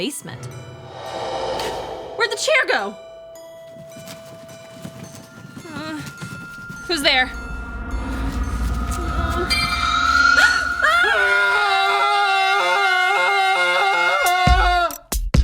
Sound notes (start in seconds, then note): 0.7 whooshing; 3.8 boxes rattling; 5.0 eerie toy piano music; 5.3 gasps; 6.4 moans; 8.3 whooshing; 10.7 gasps; 11.5 both yell